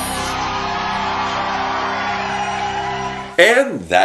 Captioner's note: crowd Cheering